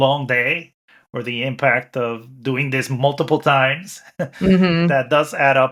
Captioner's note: chuckles